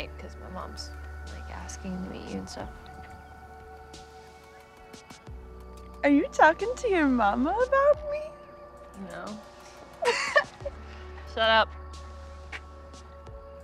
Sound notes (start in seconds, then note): 3.8 upbeat music; 10.0 Jules chuckles